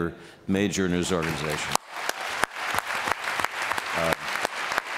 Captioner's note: applause